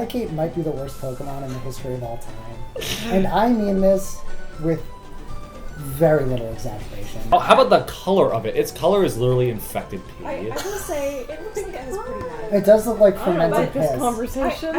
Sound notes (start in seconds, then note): 6.7 laughs